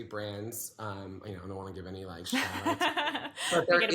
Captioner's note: laughs